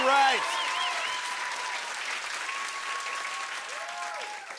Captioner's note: cheers and applause continues